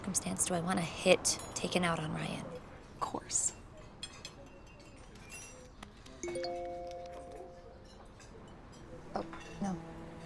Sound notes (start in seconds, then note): 6.2 phone chimes